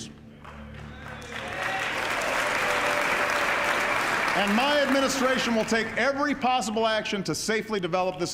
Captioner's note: audience applauding